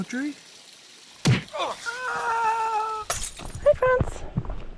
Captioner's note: bar brawl sound effect